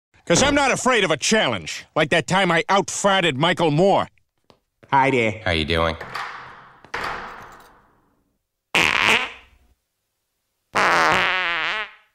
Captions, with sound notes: because i'm not afraid of a challenge like that time i outfarted michael moore hi there how you doing [stall doors open and close] [farts]